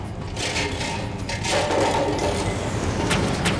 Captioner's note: clattering